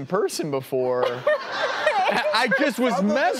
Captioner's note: laughing